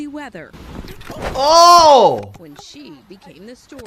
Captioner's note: exclaims